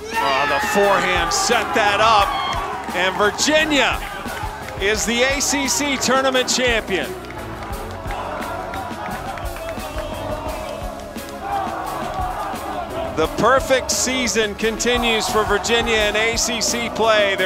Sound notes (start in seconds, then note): 6.7 applause; 7.2 cheering